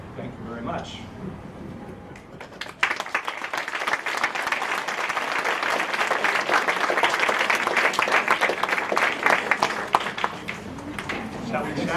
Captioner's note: applause